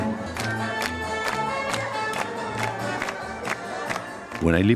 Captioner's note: crowd clapping along to music